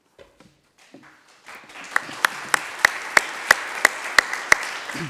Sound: attendees applauding

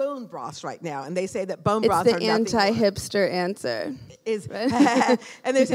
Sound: laughing

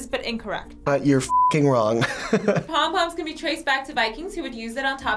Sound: chuckles

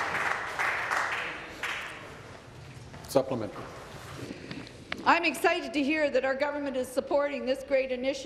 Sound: applause

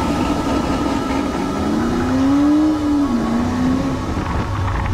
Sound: engine roaring

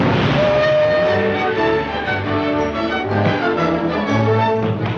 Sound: steam whistle blowing

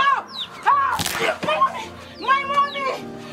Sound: neck snaps

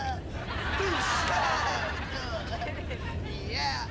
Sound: laughing

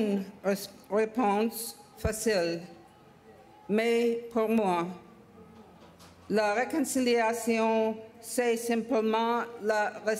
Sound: speaking French

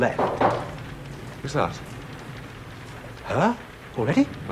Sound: knock on door

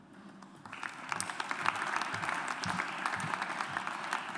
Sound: audience applauds

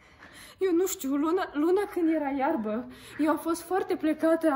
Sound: speaking Debrecenish

